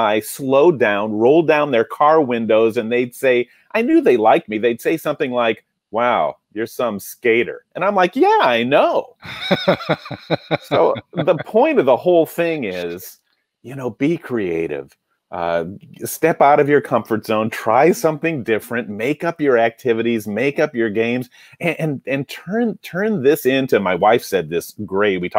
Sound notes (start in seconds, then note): 9.2 laughing